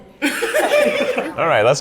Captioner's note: laughter